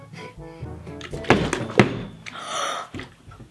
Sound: bottles landing; gasping

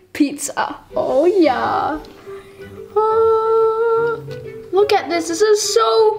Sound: humming

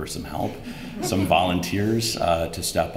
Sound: laughter

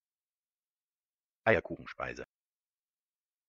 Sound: fast Pronunciation

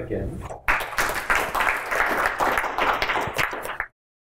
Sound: applause

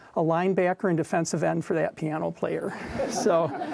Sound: audience laughing

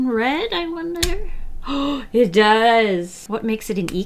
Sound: gasps

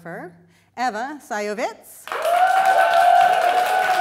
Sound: applause

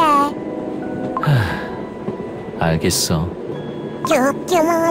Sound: sigh

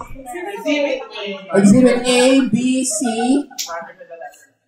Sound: laughter and murmurs

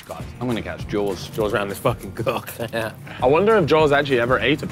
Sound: chuckles

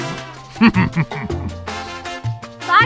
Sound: chuckling

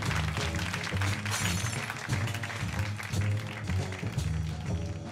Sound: glass shatters

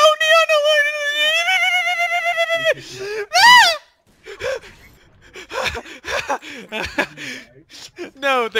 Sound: wimpering in fear

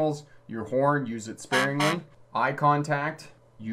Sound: truck horn beeps

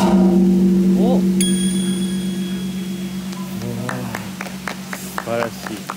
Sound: what a gentle gong sound

